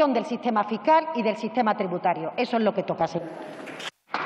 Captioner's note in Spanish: Aplausos